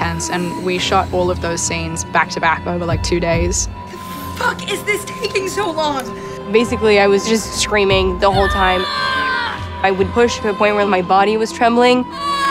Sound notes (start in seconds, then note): 8.4 screams; 12.1 screams